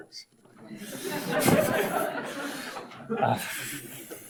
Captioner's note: audience laughs